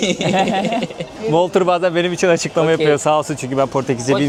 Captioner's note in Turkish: kahkaha